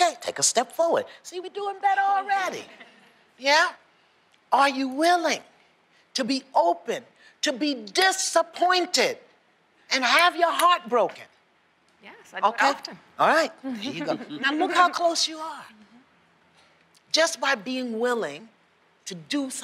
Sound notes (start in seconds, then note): 2.6 laughter